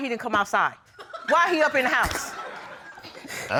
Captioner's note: audience laughs